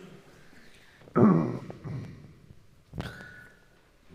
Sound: coughs

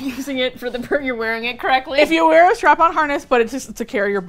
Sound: laughs

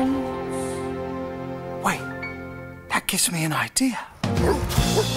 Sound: Dave talking

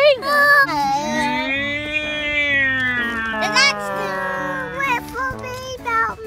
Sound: imitation engine rumbling; giggles

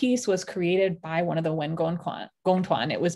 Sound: speaking in Mandarin

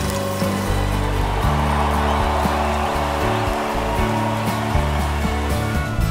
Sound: crowd roaring

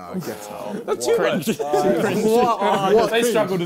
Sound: crowd mumbling

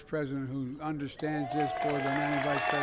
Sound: applause

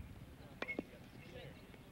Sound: bat cracking

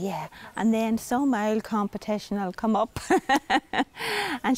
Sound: laughs

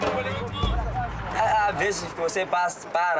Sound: Portuguese spoken audio

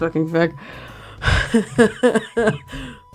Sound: subdued laughter

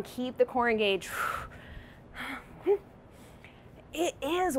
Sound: labored breathing

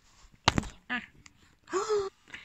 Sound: thud

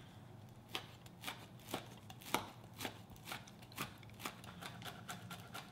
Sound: knife thudding continues

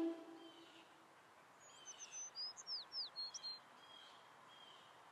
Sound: birds chirping

